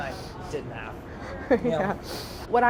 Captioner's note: laughs